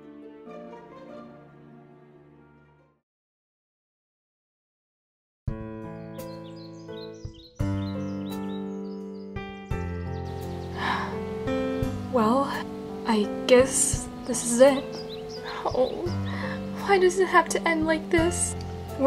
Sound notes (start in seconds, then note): 10.7 sighs